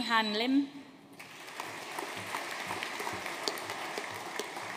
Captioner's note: audience applauding